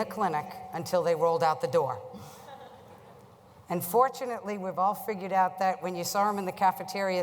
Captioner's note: laugher